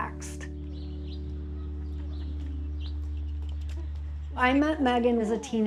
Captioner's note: nature sounds